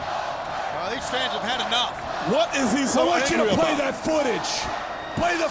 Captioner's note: crowd cheering